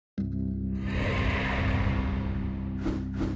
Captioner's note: logo whooshes; text whooshing